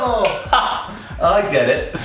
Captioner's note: laughing